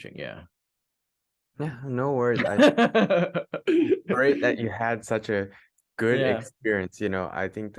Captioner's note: laughs